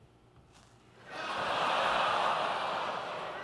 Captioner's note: audience groans